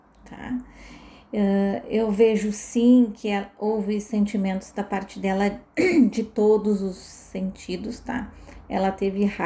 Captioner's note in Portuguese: limpando a garganta